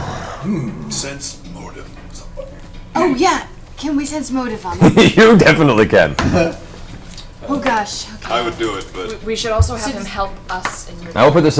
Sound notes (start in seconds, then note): 1.5 whispers; 4.6 laughs